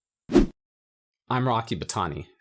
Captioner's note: transition whooshing